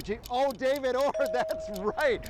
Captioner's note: bell chimes